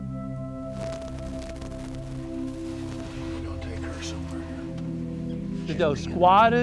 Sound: whispering

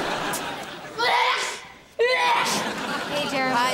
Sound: sneezing

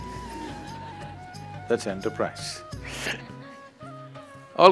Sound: laughs

